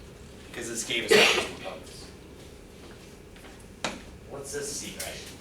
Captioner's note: coughing